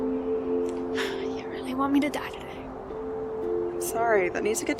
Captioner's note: sighs